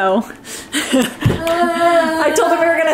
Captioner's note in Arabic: تضحك